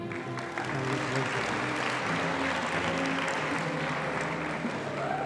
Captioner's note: audience applauding